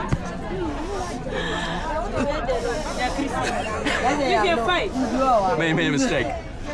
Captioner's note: speaking in foreign language